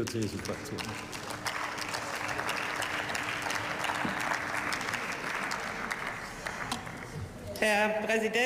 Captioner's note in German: Beifall